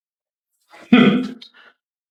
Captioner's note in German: schnaub